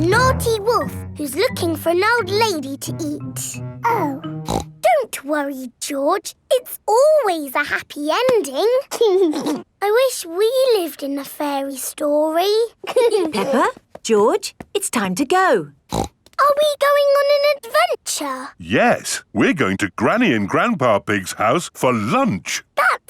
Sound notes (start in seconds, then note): 4.4 snorts; 9.0 giggling; 12.8 both giggling; 15.9 snorts